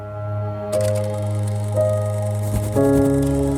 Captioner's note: film reeling